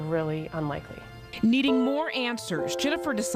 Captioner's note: voiceover